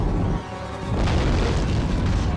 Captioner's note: crash